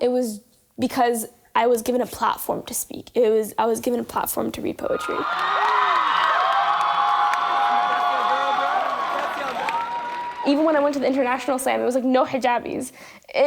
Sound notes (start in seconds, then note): 5.0 cheering and applause